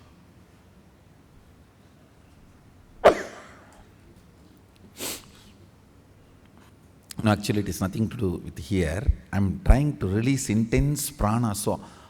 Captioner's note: sneezes